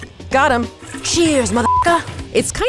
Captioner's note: beep